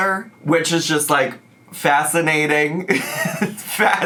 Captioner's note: chuckles